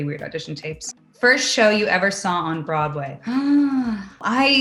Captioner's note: gasps